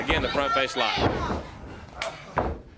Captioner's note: crowd chatter